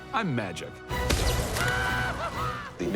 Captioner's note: whooping